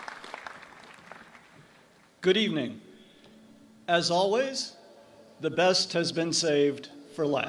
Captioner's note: applause